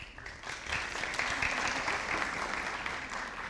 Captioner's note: audience applauding